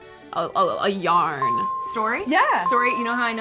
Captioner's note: dinging